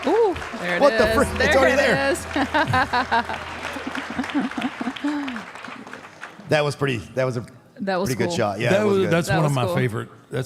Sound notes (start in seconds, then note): 1.0 laughs; 3.3 audience applauding